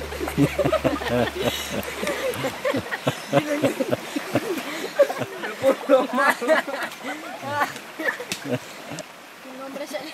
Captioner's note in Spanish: risas